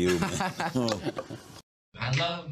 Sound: laughs

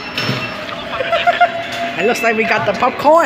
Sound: laughing at the vid

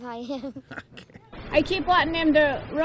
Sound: chuckles

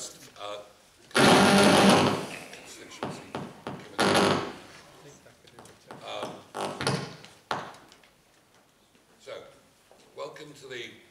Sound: interference from microphone

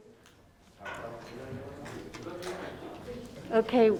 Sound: murmuring

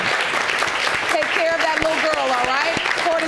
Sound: audience applauding

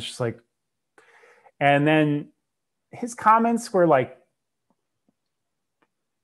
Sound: breath

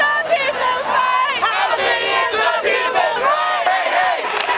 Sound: crowd

